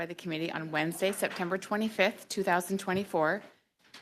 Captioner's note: speaking French